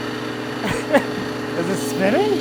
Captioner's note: chuckles